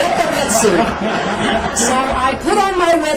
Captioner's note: laughter